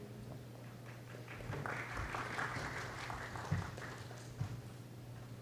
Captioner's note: applause